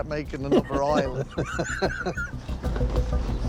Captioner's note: laughs